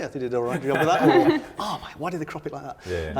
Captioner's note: all laughing